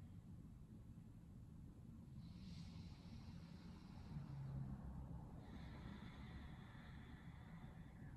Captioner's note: breathing